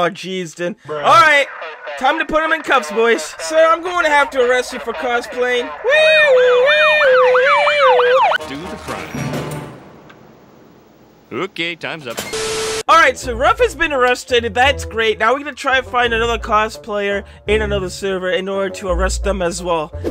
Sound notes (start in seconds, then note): 6.9 police Sirens